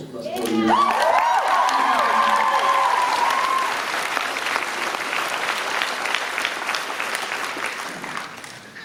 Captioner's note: applause